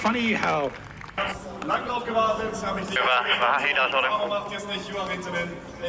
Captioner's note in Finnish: Aplodeja